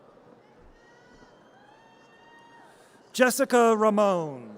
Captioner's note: audience cheers